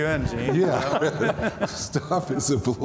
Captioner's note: laughing